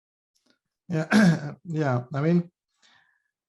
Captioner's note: clears throat